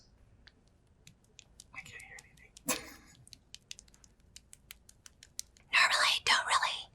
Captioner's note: lotion splashes